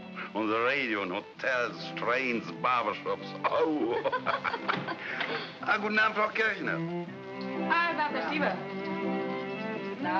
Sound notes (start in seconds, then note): 3.4 all laugh; 5.6 speaking in foreign language; 9.9 saying "good evening" in German